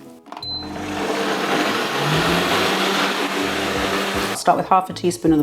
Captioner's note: blender roaring